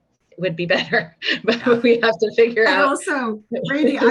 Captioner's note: laughing